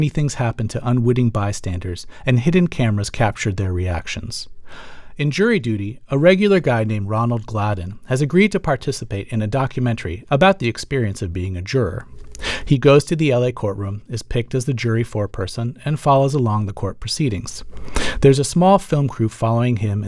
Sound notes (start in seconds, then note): none